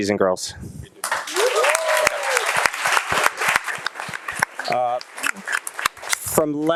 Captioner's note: audience applauding and cheering